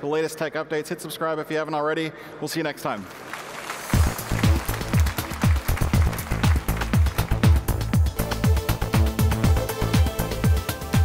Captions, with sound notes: for the latest tech updates. Hit subscribe if you haven't already. We'll see you next time. (audience applauding) (electronic music)